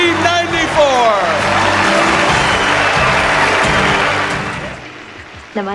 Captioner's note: audience applauding